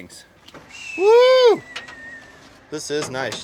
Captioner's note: whistling